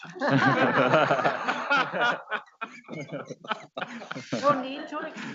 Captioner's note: board members laughing